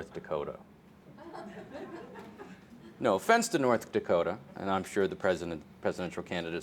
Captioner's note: laughter